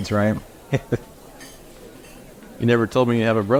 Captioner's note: Leo laughing